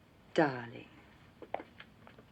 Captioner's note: footsteps